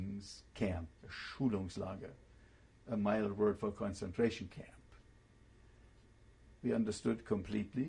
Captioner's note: german